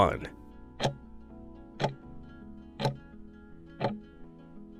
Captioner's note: timer ticking